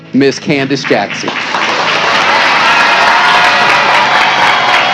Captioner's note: cheers and applause